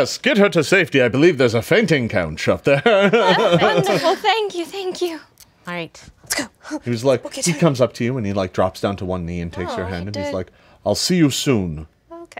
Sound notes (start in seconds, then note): 2.9 laughs